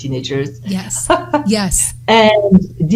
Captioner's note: chuckles